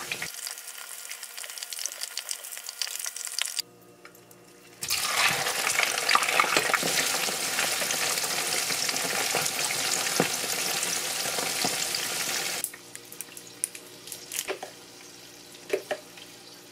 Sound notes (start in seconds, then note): 6.6 frying sounds so good; 9.9 sizzle